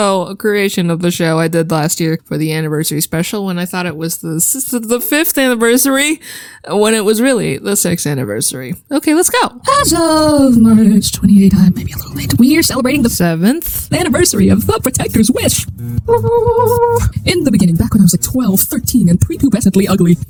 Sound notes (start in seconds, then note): 4.2 cue stuttering; 6.2 exhale; 15.7 some sort of celebratory noises?